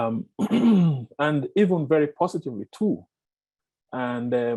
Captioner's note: clears throat